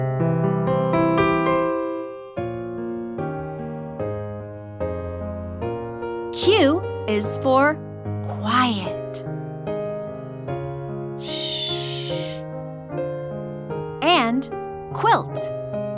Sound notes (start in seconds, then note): 0.1 light piano music; 11.2 narrator hushes